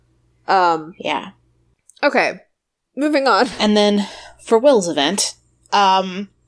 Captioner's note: sighs